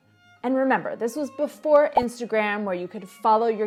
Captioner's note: bubble pops